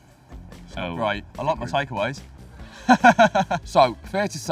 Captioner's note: laughs